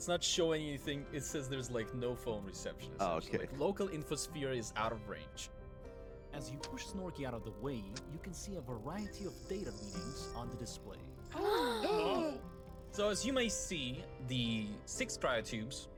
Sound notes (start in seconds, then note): 11.3 exceptionally criminal gasp; 11.3 slightly-telepathic gasp; 11.3 audible cyber-gasp